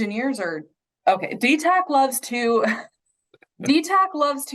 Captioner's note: chuckles